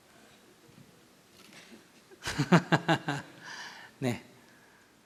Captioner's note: laughter